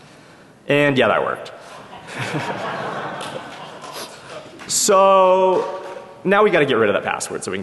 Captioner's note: laughter